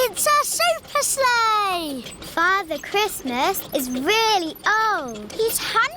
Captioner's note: none